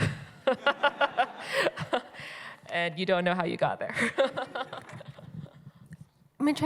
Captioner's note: chuckles